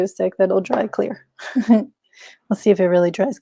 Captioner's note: chuckles